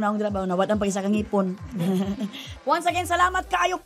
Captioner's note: laughs